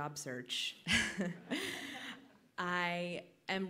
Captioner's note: laughter